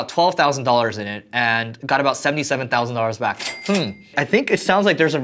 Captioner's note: cash register rings